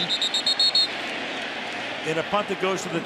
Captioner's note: whistle blows